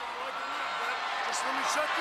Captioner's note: crowd cheering